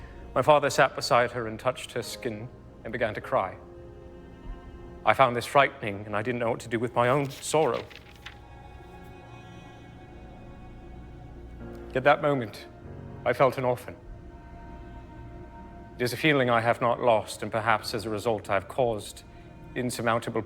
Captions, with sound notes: My father sat beside her and touched her skin and began to cry. I found this frightening and I didn't know what to do with my own sorrow. [paper swishing] At that moment I felt an orphan. It is a feeling I have not lost. And perhaps as a result, I've caused insurmountable